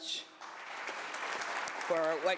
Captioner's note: applause